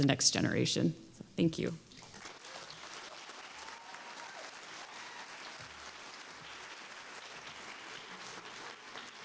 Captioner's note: applause